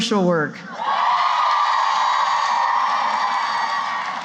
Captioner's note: cheering